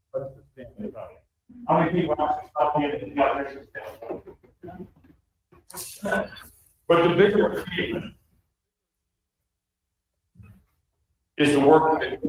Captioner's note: ~audio distortion~